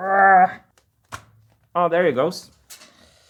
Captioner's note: grunting; click